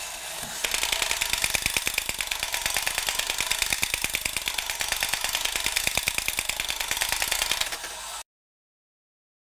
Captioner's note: mechanical whirr of robot